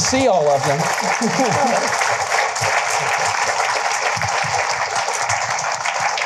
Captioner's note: applause